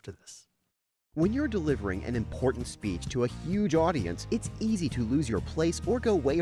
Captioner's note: voiceover